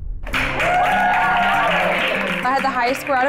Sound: all cheering and clapping

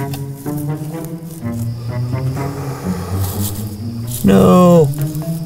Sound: blows

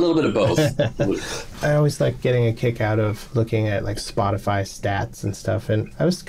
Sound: laughter

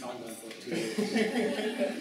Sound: laughter

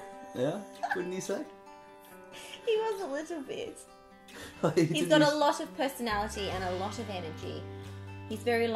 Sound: laughing

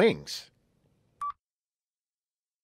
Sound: beep

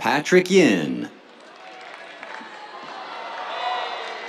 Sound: cheers, applause

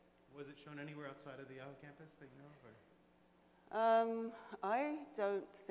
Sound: voiceover

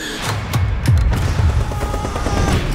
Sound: screaming

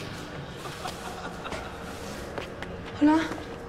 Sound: laughing

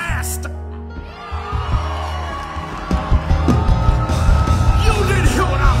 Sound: congregation cheering

